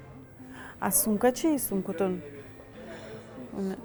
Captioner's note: speaking Tajik